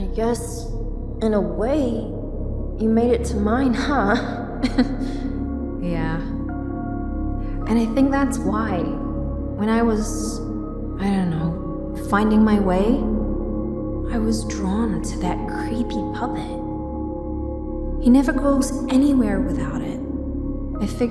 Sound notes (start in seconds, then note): 4.6 chuckles